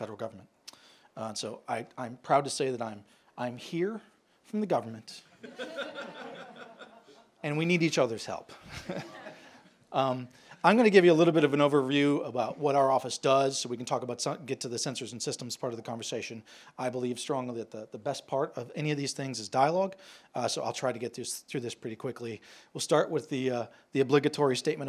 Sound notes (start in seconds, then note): 5.4 chuckles